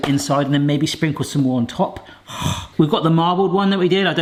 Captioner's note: exhales heavily